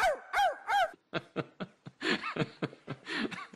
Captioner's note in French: il rit